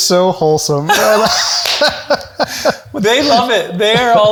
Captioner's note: chuckles